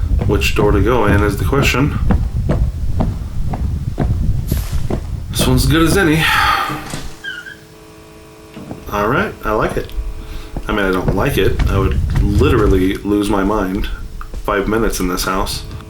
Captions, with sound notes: Which door to go in is the question. [footsteps] This one's as good as any. [door creaks] Alright, I like it. I mean, I don't like it. I would literally lose my mind five minutes in this house.